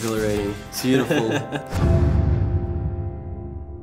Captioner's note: laughs